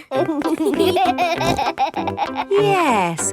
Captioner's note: laughing